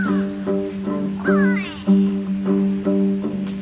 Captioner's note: cawing